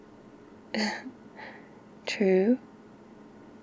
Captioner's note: laughs